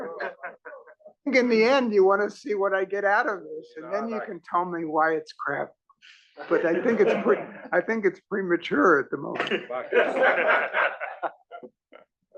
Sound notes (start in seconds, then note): 9.4 laugh